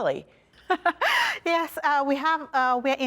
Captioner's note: laughter